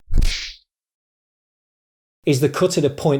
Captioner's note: kung Fu Sound